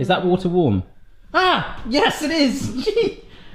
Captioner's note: scream